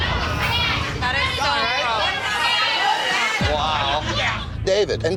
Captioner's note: chatter